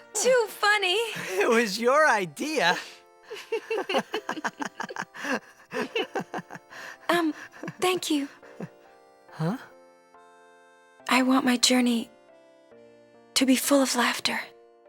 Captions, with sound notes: - Too funny! - It was your idea! [both laughing] - Um, thank you. - Huh? - I want my journey... To be full of laughter.